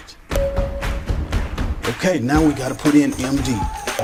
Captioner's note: electronic bing